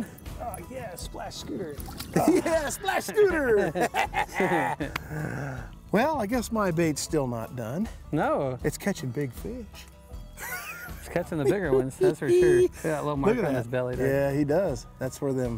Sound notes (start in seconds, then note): 2.1 laughing; 10.4 chuckles